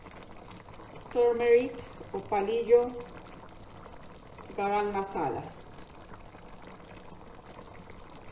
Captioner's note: spanish